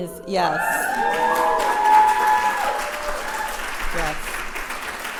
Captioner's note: applauses